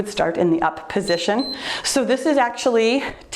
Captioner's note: timer beeps